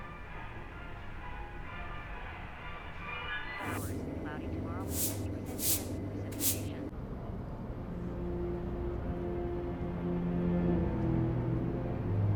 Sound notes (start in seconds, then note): 4.8 broom swishing; 7.3 soft tense orchestral music